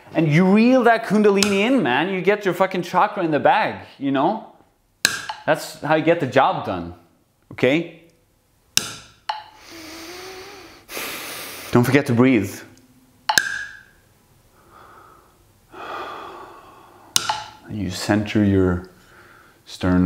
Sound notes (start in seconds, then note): 9.5 deep fucking breath